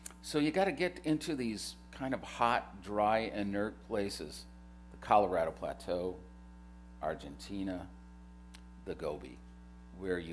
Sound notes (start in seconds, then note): none